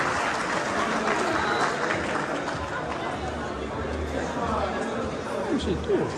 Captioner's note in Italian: Applauso